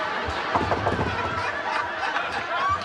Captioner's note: knocking on door